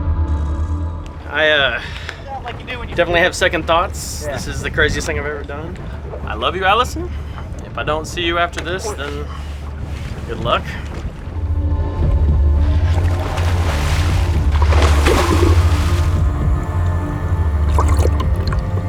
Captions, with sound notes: I definitely have second thoughts. This is the craziest thing I've ever done. I love you Allison, if I don't see you after this then, good luck. (water splashing) (suspenseful music)